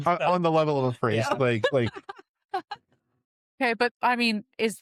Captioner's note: laughter